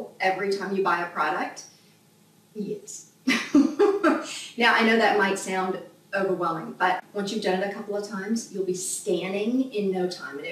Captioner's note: laughs out loud